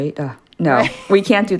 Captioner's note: laughter